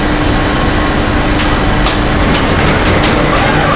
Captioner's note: engine revving; metal clanging; engine revving